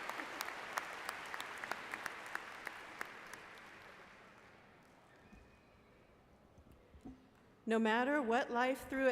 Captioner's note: applause